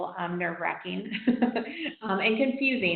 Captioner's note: laughing